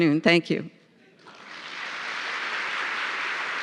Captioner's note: applause